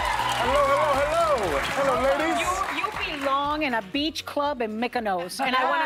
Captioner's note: cheers and applause